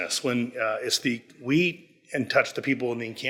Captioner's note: none